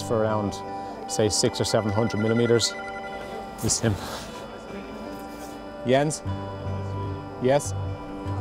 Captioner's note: phone rings